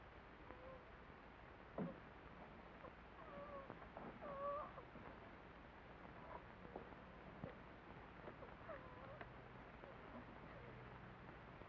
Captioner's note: sound of whimpering